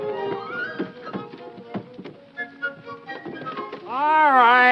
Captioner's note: wood thudding